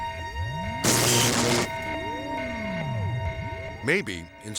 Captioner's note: electricity buzzing